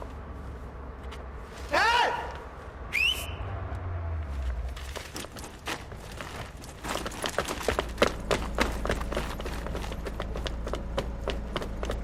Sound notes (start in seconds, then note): 2.8 whistles